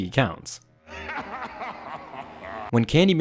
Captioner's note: laughs